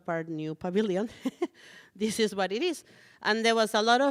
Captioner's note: chuckles